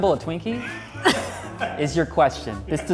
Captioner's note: laughs